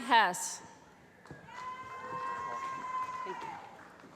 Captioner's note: cheering